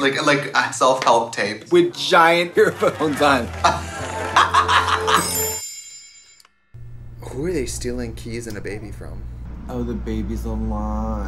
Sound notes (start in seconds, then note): 3.6 Trixie laughing; 5.2 soft chiming